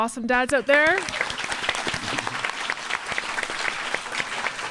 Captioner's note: audience clapping